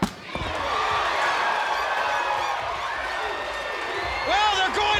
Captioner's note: audience cheers